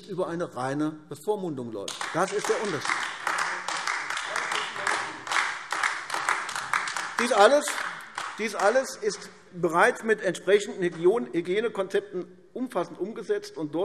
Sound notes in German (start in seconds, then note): 1.8 Beifall AfD